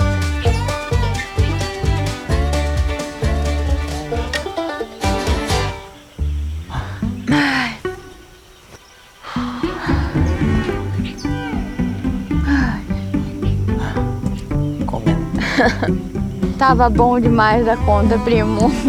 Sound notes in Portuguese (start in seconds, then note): 0.3 Pássaros; 6.5 Suspiros; 9.2 Suspiros